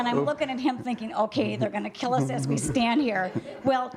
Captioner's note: laughter